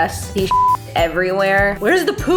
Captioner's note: beep